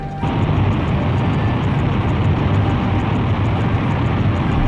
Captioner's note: rockets roaring